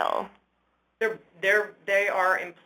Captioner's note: voiceover